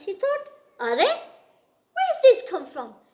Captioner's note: speaks in gujarati